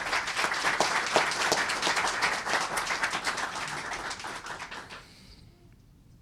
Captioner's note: applause